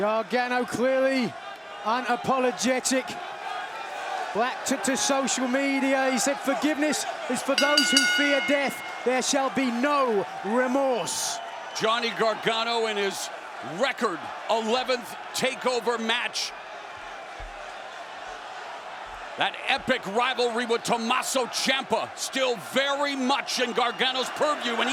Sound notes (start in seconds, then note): 7.5 bell ringing